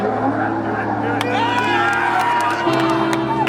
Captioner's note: cheering